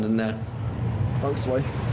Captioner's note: boat engine revving